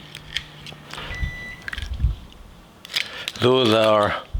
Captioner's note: microwave beeps